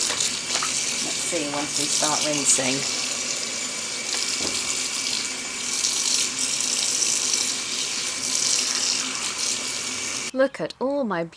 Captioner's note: tap running